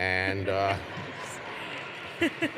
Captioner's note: laughter; applause